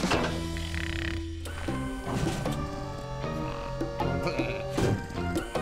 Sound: snoring

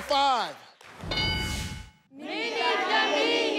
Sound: screen dings

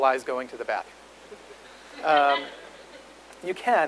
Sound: audience laughs

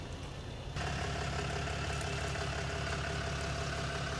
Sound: engine rumbles

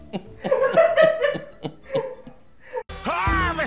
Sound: both laugh more

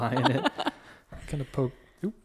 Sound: laughs

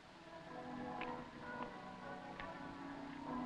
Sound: bells pealing

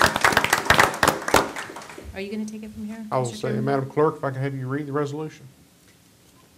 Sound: applause

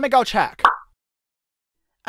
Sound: popping sound

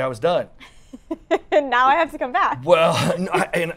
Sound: laughs

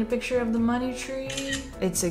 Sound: camera clicks

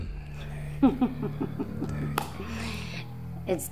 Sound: siren wailing; Catwoman laughing

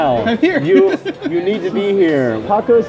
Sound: laughing

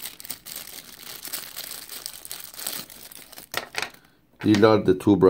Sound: plastic bag crinkling

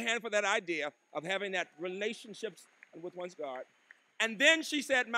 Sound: applause

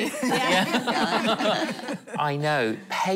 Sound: laughing

